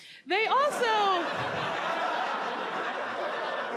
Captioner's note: audience laughs